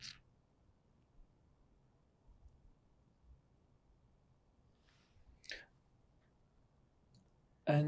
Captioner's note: pauses 6 seconds